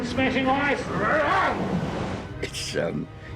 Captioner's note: growls